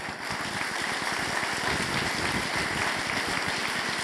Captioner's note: audience applauding